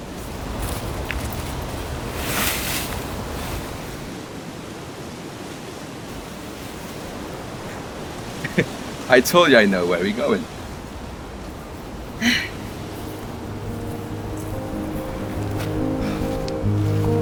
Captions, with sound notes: (chuckle) I told you I know where we're going! (sigh) [optimistic music]